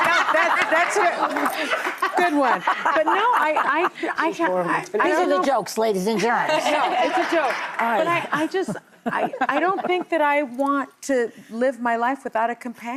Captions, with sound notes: (audience laughs) good one. But no, I-- (audience laughs) These are the jokes, ladies and gents. No, it's a joke. But I just, I don't think that I want to live my life